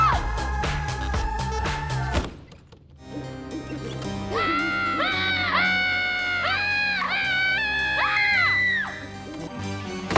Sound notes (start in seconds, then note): 0.1 screams; 3.7 owl hooting; 4.3 screams